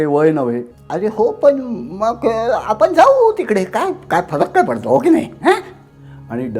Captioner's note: imitates the voice of an old man